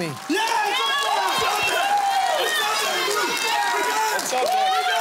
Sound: cheering and applause

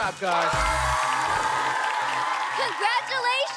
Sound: cheering

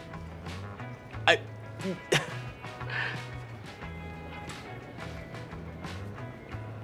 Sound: soft mellow music; stammering

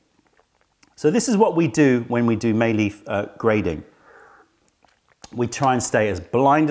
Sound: sips tea

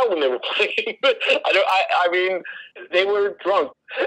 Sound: laughs

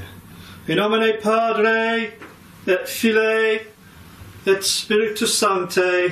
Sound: talking in foreign language

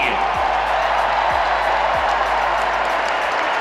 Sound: crowd roars

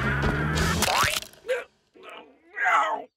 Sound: cracking noise

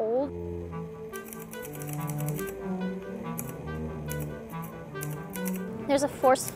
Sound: quirky cello music; typewriter keys clacking

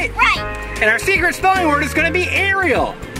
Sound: voiceover

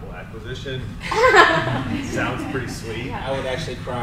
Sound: panel laughs

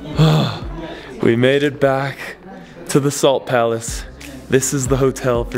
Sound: sighs

